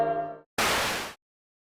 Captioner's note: static